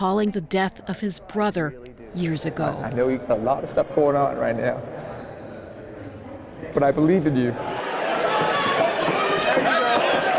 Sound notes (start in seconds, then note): 5.0 cheering